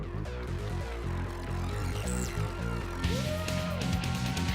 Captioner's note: cheering